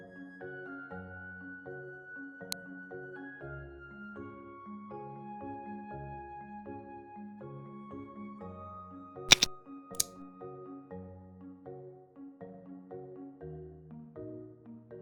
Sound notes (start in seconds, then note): 2.4 click sound; 3.6 calm music; 9.3 click sound; 9.6 calm music